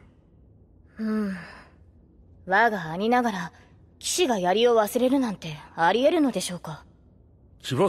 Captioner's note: sigh